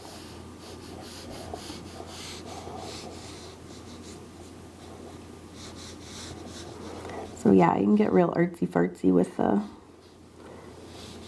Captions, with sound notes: (pen scribbling) So yeah, you can get real artsy-fartsy with the,